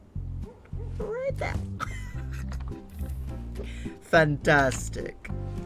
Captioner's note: laughs